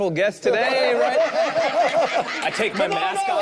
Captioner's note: group laughs